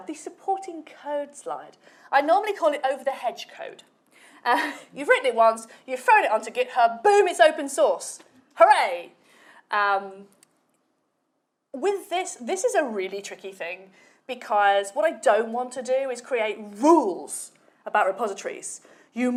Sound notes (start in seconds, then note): 4.0 chuckles